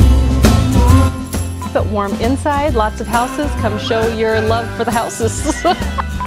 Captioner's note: laughing